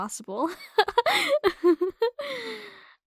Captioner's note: soft laugh